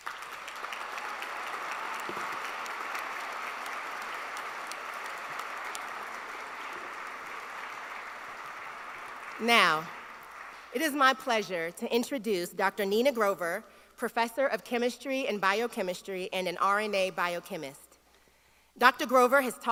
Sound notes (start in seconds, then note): 2.9 applause